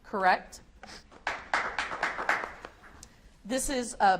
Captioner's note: audience applauds